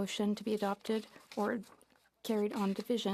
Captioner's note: speaking French